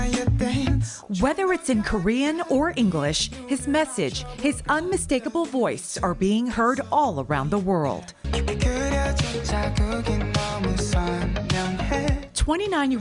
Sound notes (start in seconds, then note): 6.0 speaking in native tongue